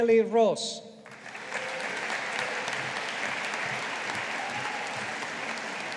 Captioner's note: audience applauding